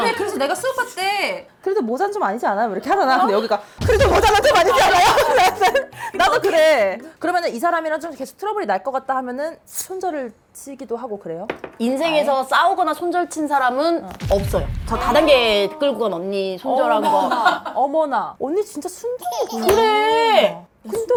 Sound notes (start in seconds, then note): 3.8 second wave of tremors